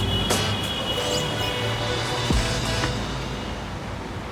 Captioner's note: cars hooting